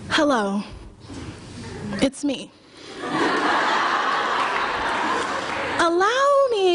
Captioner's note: laughter, applause